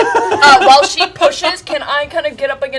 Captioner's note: laughter